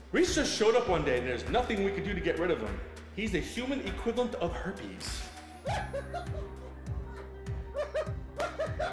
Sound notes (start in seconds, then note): 5.6 man laughing